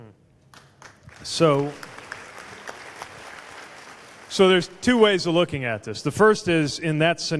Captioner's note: applause